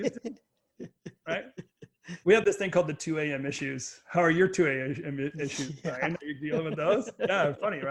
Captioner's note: laughs